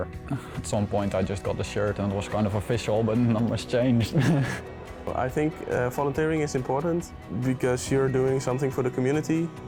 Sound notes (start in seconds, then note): 4.0 laughs